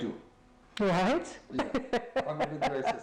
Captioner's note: laughs